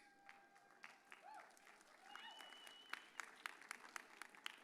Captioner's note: audience cheers